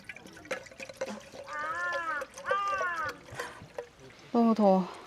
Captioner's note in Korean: 까마귀 까으악 깍 거리는 소리